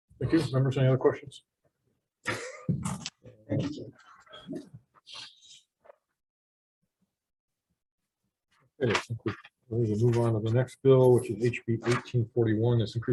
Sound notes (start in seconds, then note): 3.8 chuckles